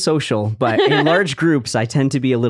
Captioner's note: laughing